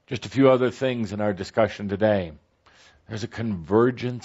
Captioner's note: none